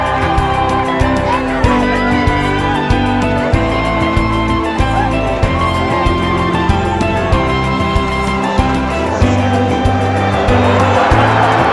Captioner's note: cheering